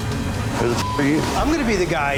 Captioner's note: beep